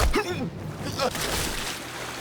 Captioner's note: dramatic music; grunting; dramatic music